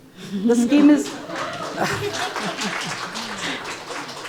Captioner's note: audience applauding